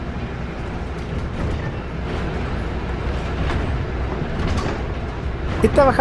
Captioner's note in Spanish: sonido ambiente, cruce de canal San Carlos